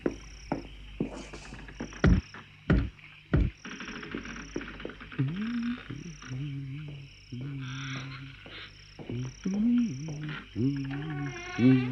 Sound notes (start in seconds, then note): 2.7 knocks; 5.4 hums; 10.0 door creaks open